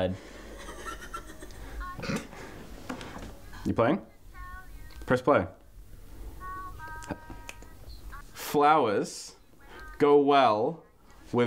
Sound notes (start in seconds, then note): 0.4 cracking up silent-style; 7.4 clicks fingers